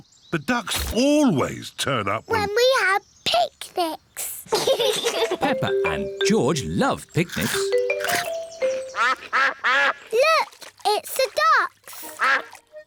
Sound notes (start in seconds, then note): 4.5 both laugh; 8.9 quacking